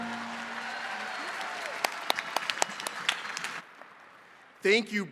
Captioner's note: attendees cheering and clapping